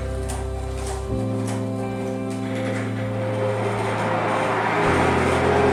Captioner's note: machine whirring